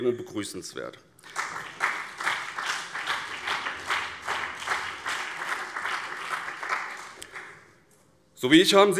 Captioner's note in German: Beifall